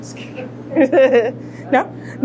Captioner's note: laughter